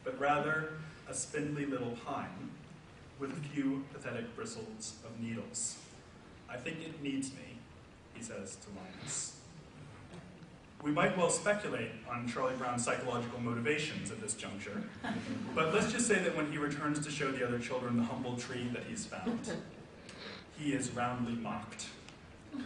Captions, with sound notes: but rather a spindly little pine with a few pathetic bristles of needles. 'I think it needs me,' he says to Linus. We might well speculate on Charlie Brown's psychological motivations at this juncture, (audience laughs) But let's just say that when he returns to show the other children the humble tree that he's found, he is roundly mocked.